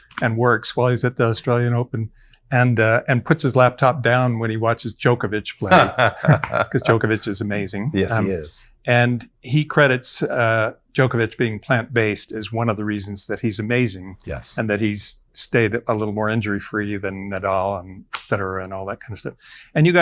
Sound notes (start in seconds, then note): 5.6 laughs